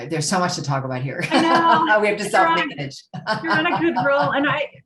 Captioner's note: laughs